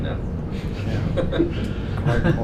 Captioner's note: laughs